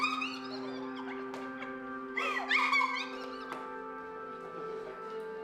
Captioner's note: hysterical laughing